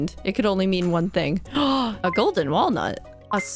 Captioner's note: gasp